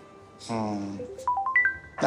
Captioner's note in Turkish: Telefon çalıyor